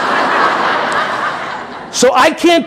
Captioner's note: audience laughing